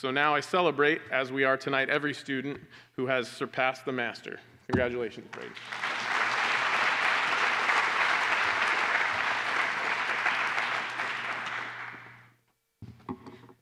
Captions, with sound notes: So now I celebrate, as we are tonight, every student who has surpassed the master. Congratulations, Braeden. [APPLAUSE]